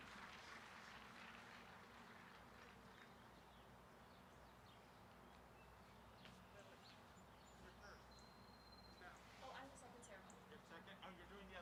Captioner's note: applause